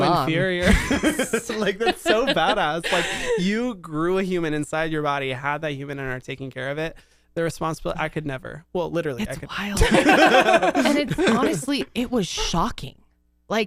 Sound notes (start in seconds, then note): 0.0 laugh; 9.8 laugh